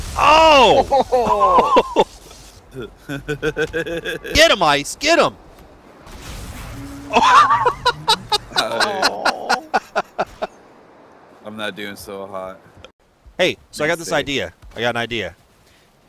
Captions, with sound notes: Oh! Oh-hoh! *laughter* Get him, Ice! Get him! *laughter* I'm not doing so hot... Hey, so I got this idea... I got an idea...